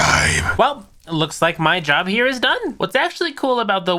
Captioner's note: deep demonic voice; normal voice